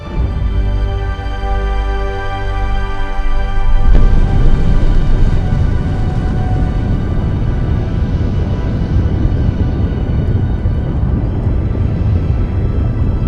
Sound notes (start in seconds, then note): 0.3 inspirational music; 3.6 explosion booming